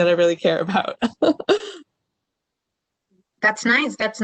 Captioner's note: laughter